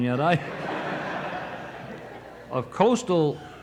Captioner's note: audience laughing